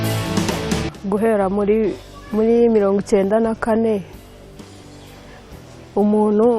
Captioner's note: speaking in Kinyarwanda